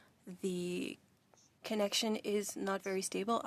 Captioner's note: speaking French